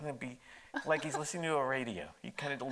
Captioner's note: laughing